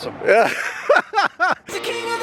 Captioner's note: laughing